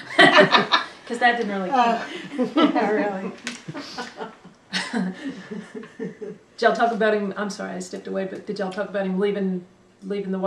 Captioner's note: laughter